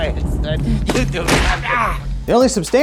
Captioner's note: grunting lightly